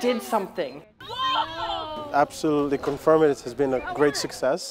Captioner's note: students cheering